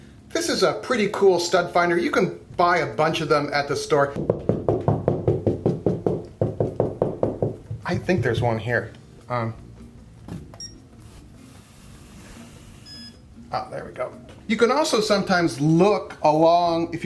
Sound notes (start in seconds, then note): 4.2 knocking; 10.4 beeping